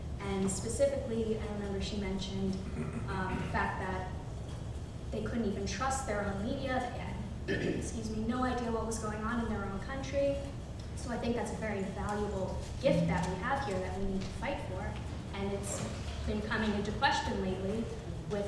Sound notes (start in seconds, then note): 7.4 clears throat